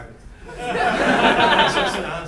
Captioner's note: laughing